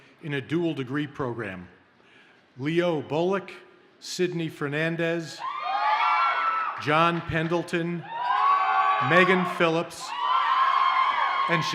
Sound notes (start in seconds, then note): 5.4 audience cheers